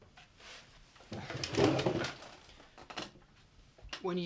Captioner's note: Franks chair scrapes loudly as he sits back down